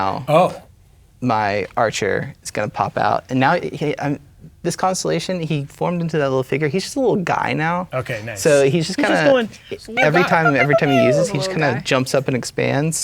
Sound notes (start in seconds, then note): 3.7 stammers; 11.0 making tiny weapon noises